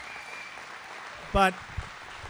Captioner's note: applause